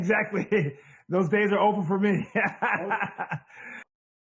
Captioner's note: laughs